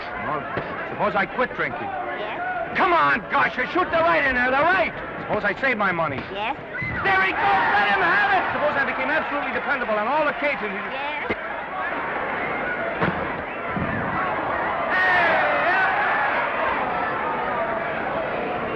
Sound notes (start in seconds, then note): 12.8 crowd cheering; 13.0 punch thudding; 15.8 crowd cheering